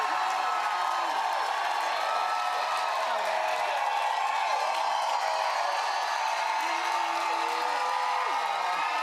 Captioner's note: cheers and applause